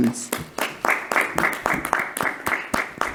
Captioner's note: clapping